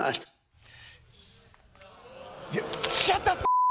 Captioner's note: audience booing